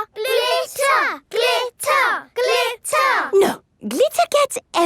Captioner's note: chanting